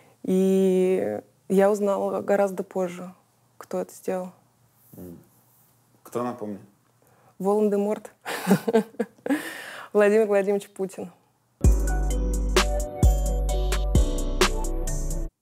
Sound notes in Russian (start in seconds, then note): 8.3 смеется; 11.6 музыкальная заставка